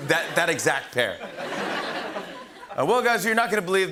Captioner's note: laughter